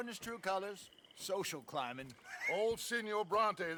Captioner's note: laugh